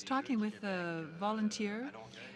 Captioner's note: speaking French